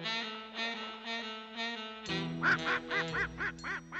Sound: quacking

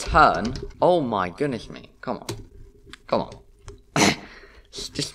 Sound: coughs

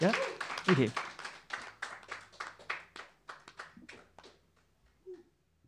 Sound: applause

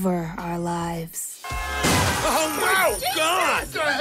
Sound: car horn; car crashing

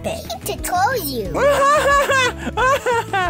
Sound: Unicorse laughs

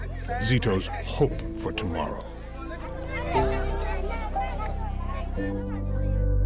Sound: talking and laughing; melancholy music

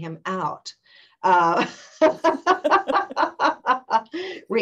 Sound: laughter

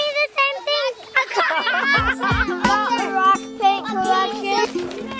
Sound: parents laugh

